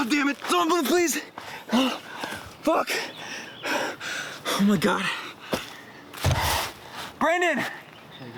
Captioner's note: heavy breathing